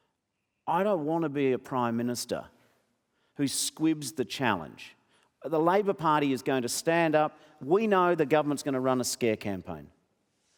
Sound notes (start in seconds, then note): none